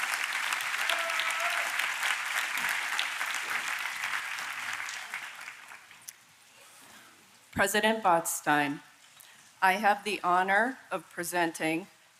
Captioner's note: applause